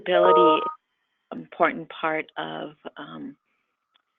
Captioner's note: computer beeps